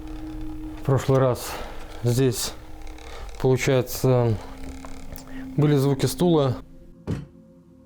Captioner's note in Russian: стуки